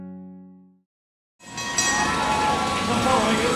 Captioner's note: bell ringing